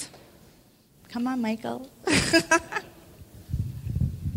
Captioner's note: laughs